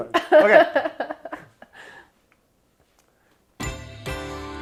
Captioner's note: laughs; gentle music